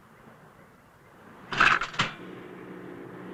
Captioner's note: clank